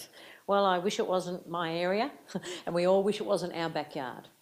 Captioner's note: chuckles